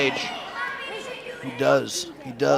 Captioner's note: crowd shouts